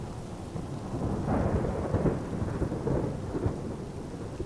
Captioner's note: thunder rumbling